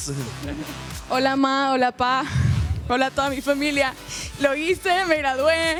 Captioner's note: speaks in foreign language